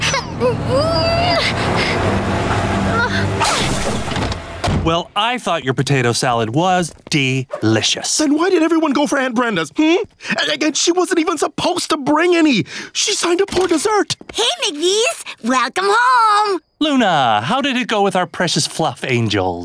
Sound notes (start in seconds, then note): 0.1 grunting; 2.6 grunting